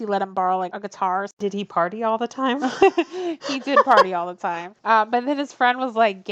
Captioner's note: laughs